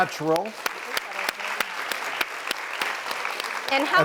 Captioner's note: clapping